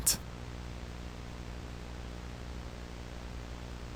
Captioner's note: static hissing